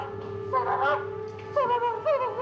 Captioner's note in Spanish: sollozos